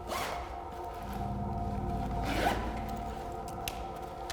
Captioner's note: zipper buzzing